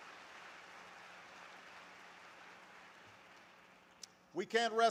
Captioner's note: applause